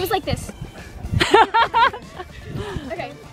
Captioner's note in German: lacht